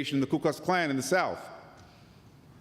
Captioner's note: none